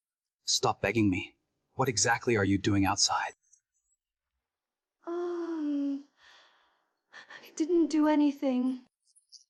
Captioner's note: sighs and gasps